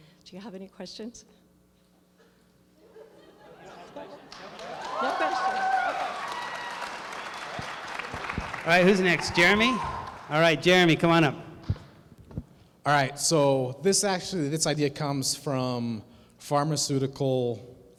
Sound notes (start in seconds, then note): 2.8 laughter